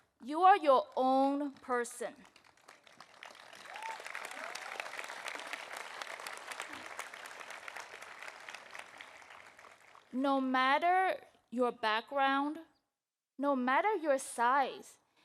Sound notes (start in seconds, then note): 2.2 audience applauding